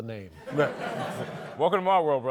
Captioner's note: laughter